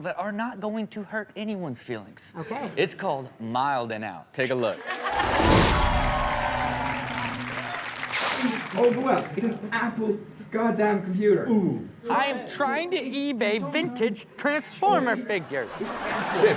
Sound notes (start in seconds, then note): 4.9 audience cheers; 4.9 Chanel laughs; 5.2 electricity buzzes; 15.0 audience laughs